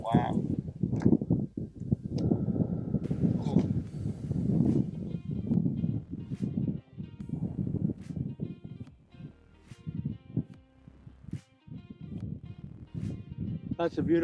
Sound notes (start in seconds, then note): 0.0 wind rumbles; 2.6 wind rumbles